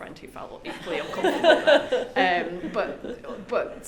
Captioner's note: group laughs